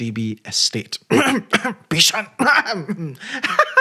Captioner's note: ahem